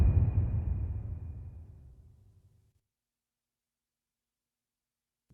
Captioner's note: dramatic sound